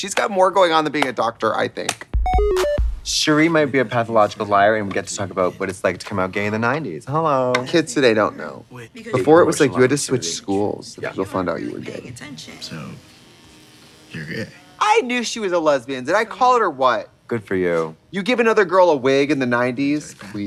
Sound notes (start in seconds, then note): 2.1 bright electronic music; 12.4 hair clippers buzzing